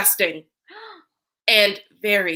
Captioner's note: Professor Lee gasps